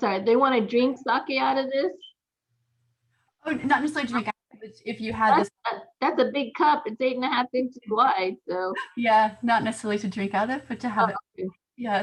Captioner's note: laughter